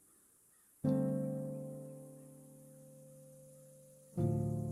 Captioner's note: crickets chirping